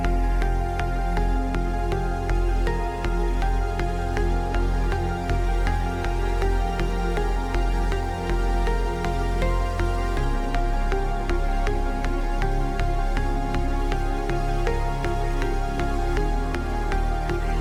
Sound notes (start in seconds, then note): none